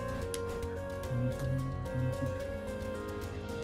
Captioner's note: humming along